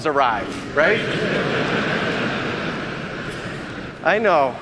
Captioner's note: audience laughing